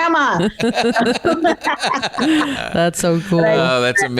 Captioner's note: all laughing